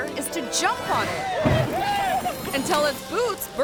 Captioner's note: yelling